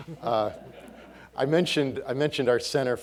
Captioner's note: audience laughing